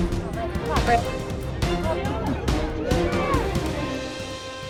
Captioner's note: crowd shouting